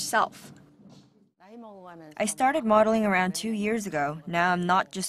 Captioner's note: Korean